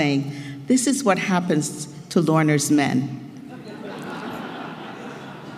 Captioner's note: laugh